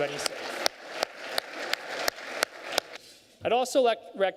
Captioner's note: applause